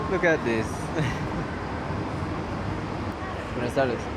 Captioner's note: laughs